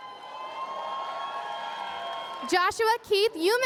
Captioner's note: cheers and applause